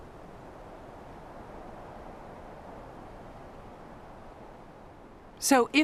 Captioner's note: wind whipping continues